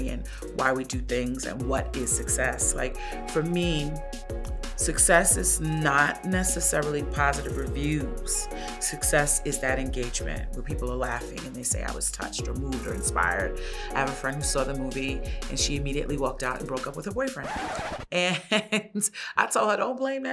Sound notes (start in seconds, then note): 17.3 record skips; 18.2 chuckles